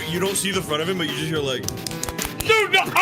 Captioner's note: imitates jerking off noise